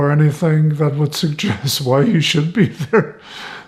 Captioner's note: laughing